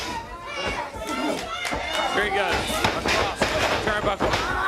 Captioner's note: crowd cheering